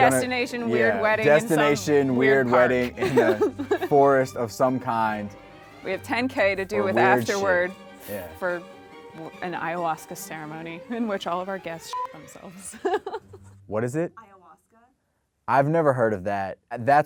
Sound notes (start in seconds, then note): 11.9 beep; 12.6 laughs